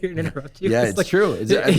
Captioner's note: laughs